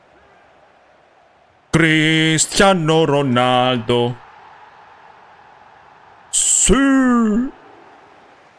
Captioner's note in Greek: χειροκρότημα